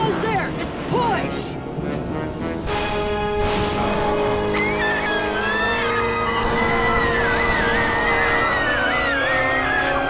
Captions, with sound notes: - You're almost there, just push! (both screaming)